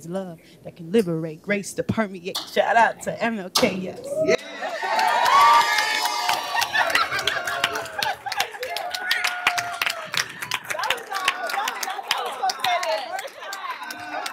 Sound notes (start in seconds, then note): 4.3 cheering and applause